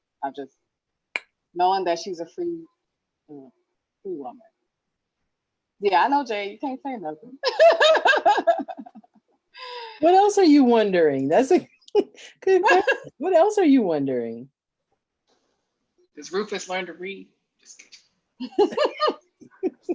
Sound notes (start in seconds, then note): 7.4 laughs; 18.4 laughs